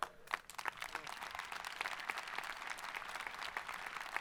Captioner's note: audience applauding